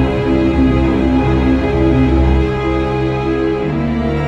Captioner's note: none